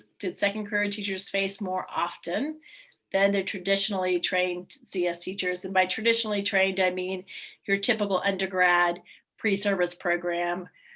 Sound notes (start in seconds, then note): none